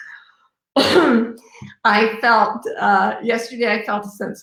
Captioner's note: coughs